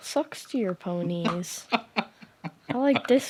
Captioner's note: laughing